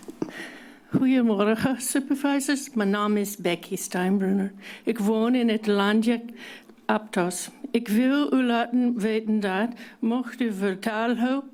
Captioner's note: foreign language